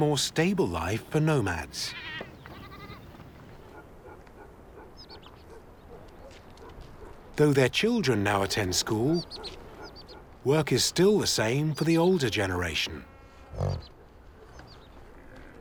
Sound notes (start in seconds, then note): 1.8 sheep bleating; 4.0 dog barking